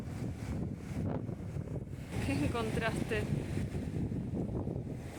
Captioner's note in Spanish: olas y viento